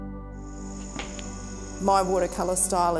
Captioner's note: serene music; crickets chirping